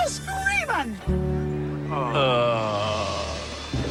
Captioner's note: groan